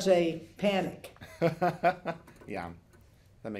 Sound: laughs

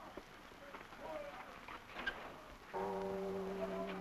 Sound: the new year bells sound

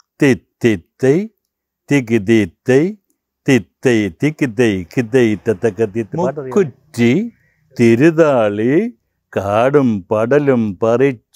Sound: recites the same song

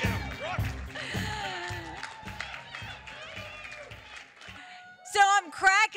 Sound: applause

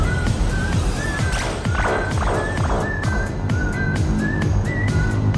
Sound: energy field bleeps

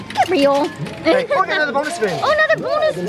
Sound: laughs

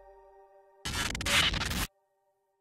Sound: SFX: static

